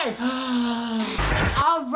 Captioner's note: gasps